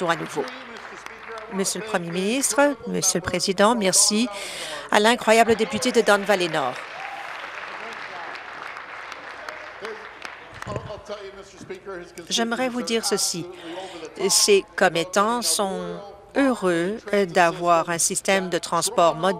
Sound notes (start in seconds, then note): 0.0 applause; 9.3 applause